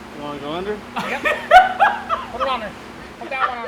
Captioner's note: laughing